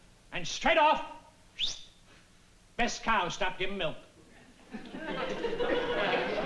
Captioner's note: whistle